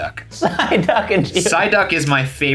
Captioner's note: laughs